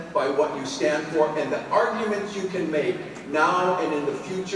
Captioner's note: none